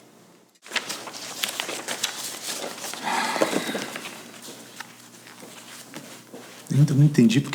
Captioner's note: papers being shuffled